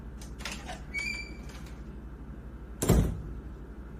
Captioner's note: door opens; door closes